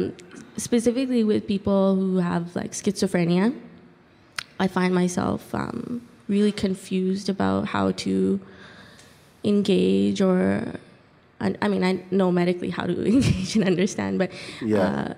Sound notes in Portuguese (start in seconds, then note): 13.1 risos